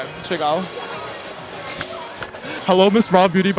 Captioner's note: laughing